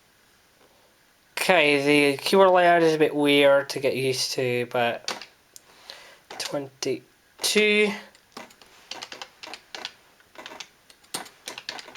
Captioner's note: typing